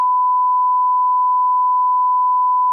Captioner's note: beep